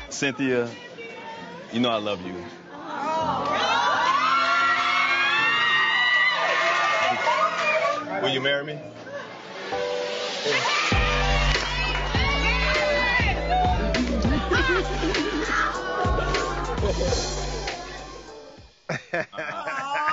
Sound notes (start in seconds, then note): 2.9 crowd cheering; 10.7 crowd cheering; 13.4 upbeat music; 18.8 laughs